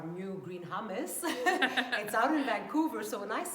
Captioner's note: laughs